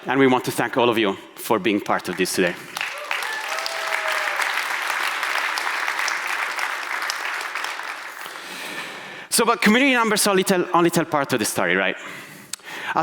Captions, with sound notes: and we want to thank all of you for being part of this today. (audience applauding) So, but community numbers only tell part of the story, right?